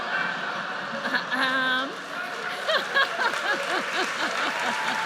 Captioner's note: audience laughs; laughs; audience cheers and applauds